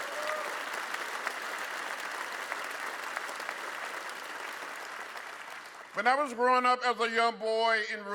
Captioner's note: applause